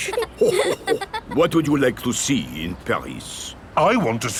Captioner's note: chuckles